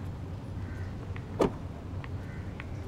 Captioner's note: Car door closes